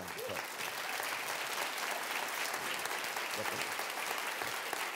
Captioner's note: applause